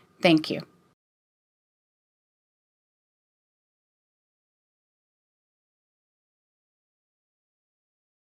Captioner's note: silence